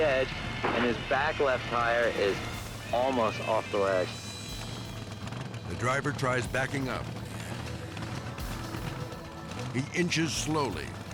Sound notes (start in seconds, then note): 5.3 truck revving; 8.8 Jeep revving